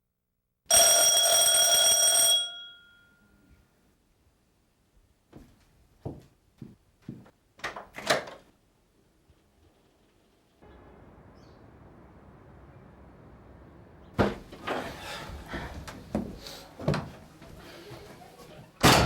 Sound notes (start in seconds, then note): 0.7 doorbell ringing